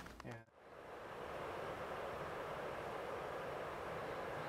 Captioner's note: distant hushing